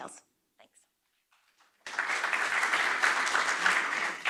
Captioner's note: audience applauds